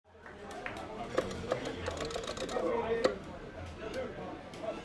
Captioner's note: joy stick clicking; people chattering